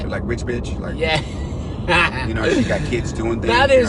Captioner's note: driver laughs